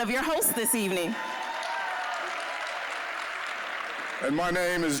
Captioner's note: applause, cheering